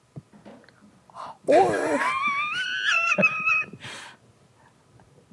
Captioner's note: laughs wheezily